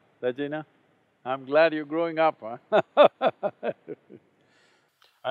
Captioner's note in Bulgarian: смее се